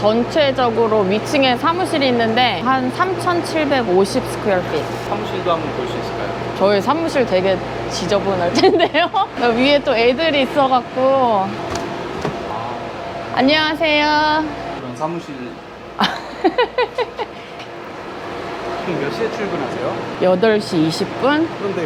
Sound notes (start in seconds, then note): 16.0 Laughs